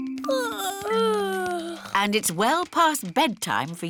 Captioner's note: yawning